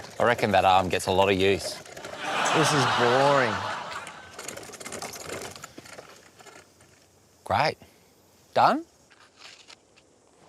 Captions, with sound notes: I reckon that arm gets a lot of use. (LAUGHTER) This is boring. Great. Done?